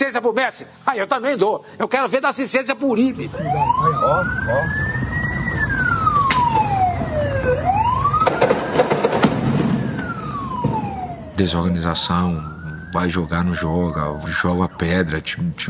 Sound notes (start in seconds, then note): 4.5 sirens blaring; 8.2 loud booms